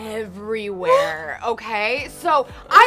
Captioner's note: chuckles